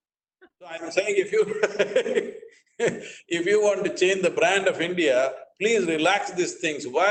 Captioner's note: laughs